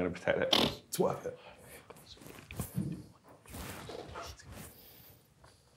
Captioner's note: snorts